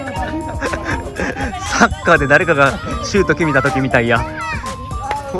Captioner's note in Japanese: 笑い